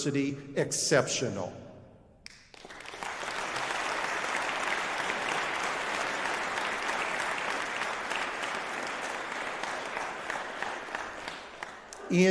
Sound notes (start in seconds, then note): 2.2 applause